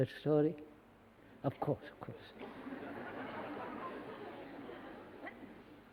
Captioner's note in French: Rires